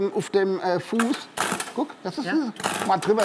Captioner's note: Knistern